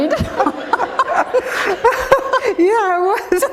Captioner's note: laughter